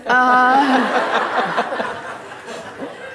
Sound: laughter

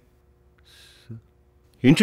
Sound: Amuthan sighs

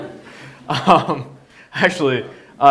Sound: laughs

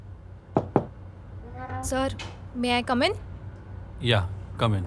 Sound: door knocking

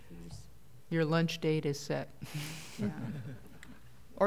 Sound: laughter

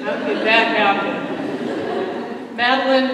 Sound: laughter

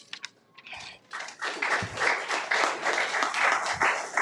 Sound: applauds

